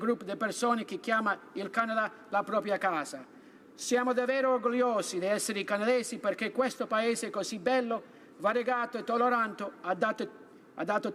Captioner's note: speaking Italian